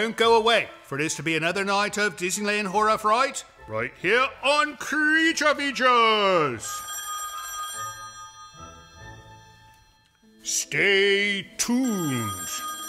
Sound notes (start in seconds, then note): 6.4 phone ringing